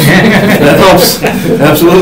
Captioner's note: attendees laugh